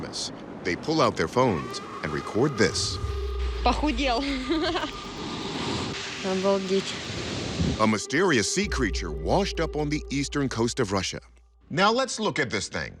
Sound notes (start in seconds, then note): 3.2 speaking Russian